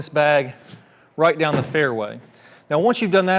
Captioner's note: impact bag slams